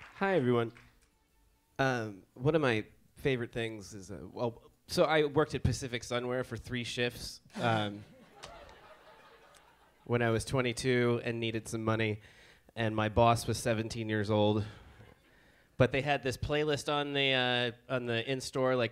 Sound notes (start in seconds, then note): 7.5 audience applauds